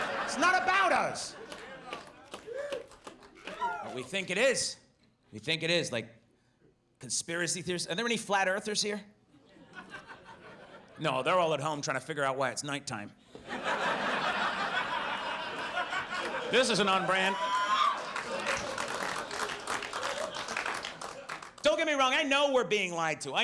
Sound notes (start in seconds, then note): 0.0 audience laughs; 9.4 audience laughs; 14.6 audience laughs; 18.9 audience applauds